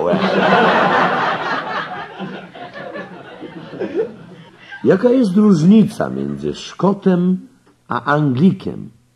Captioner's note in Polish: śmiech